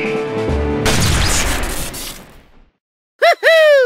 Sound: gunshot

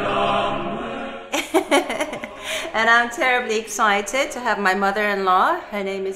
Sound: laugh

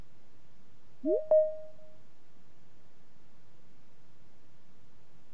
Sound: digital chime

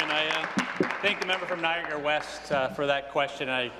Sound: applause

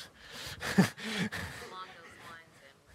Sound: chuckling

